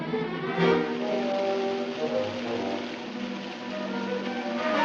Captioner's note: running water